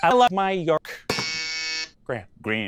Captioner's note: buzzer